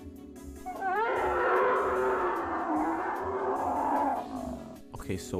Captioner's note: seagull noises